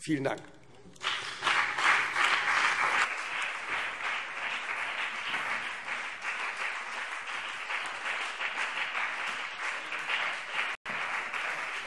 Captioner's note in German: Beifall CDU und BÜNDNIS 90/DIE GRÜNEN